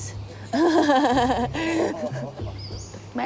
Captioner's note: laughs